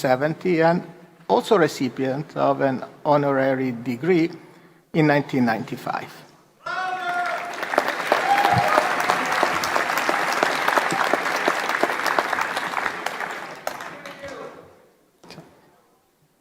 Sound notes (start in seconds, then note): 4.6 applause